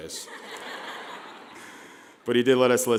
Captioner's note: laughing